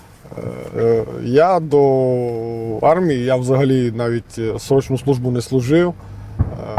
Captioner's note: chuckles